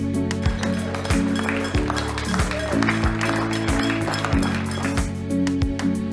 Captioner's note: claps, cheers and banging on pots